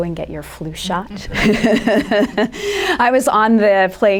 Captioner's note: laughter